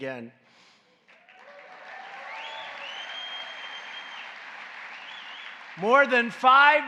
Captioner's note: applause